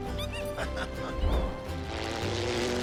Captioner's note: bear squeaking